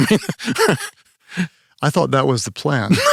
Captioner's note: laughs